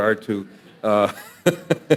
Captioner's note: audience laughing